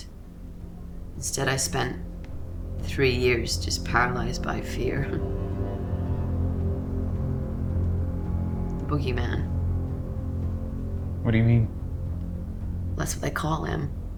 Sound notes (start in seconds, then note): 5.4 scoffs; 6.1 ominous music